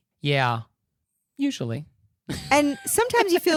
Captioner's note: giggling